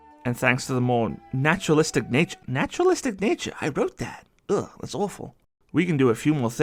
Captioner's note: sounds of disappointment in myself